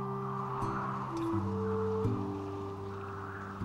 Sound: wind whistling

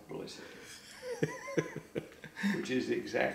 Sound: laughs

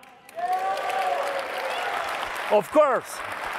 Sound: audience applauding; audience cheering

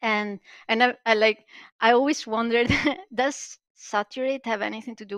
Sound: laughs

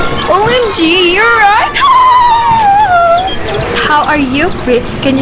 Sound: laughing

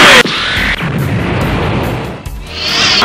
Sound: explosion

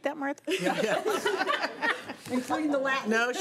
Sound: laughing

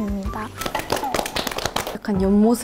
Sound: singles clapping for themselves

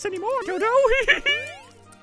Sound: manly giggles

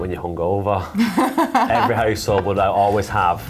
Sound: laughing

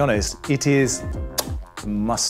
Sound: kiss sound

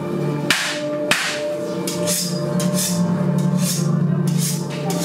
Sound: cutting and knife noises

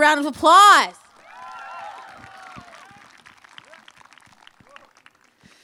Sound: applause

